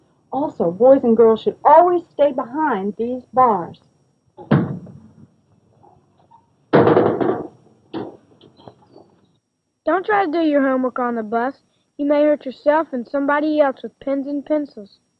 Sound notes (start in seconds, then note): 4.4 thump!; 6.8 wham!